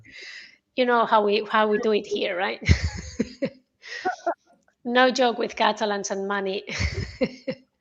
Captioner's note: laughter